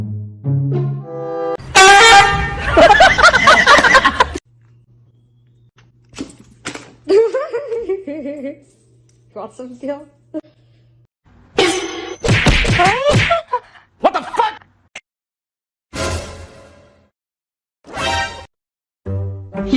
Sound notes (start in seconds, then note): 12.2 gunshot; 14.0 laughs